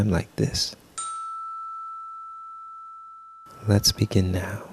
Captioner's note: chime!